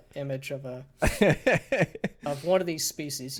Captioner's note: laughing